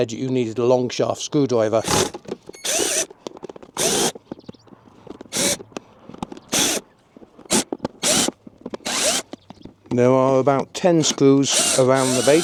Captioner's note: drill